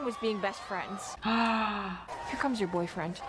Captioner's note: gasps